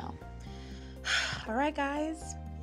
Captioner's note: sighs